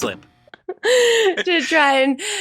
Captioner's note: chuckles